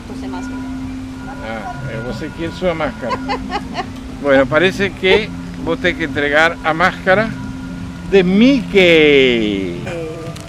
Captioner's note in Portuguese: risos